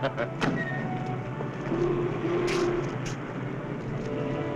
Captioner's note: chuckling